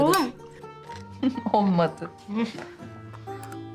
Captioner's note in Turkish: Gülme sesi